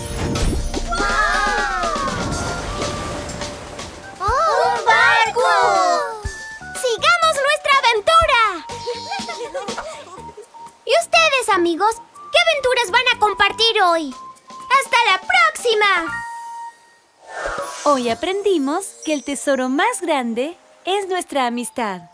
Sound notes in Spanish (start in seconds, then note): 8.8 Risas